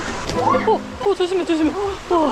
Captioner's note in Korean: 미끄덩